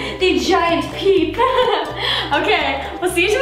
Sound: laughs

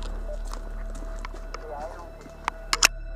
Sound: radio

